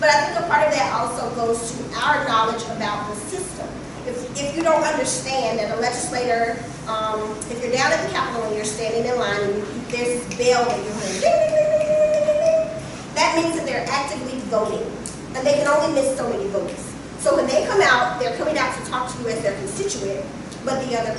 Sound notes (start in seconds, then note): 11.7 vocalizing bell ringing